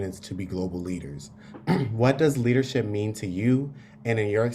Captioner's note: cough